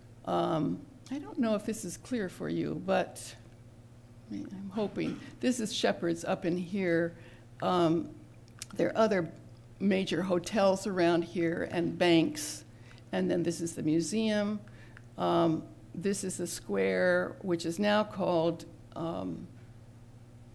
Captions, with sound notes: I don't know if this is clear for you, but I'm hoping [cough in background]. This is Shepherd's up in here. There are other major hotels around here and banks and then this is the museum. This is the square, which is now called square --